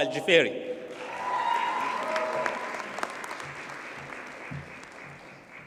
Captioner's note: audience cheers and applauds